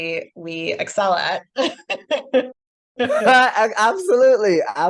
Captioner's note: laughs